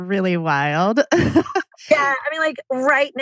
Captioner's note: laughs